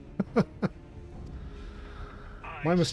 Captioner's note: laughs